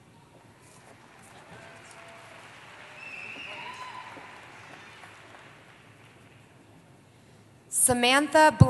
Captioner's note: applause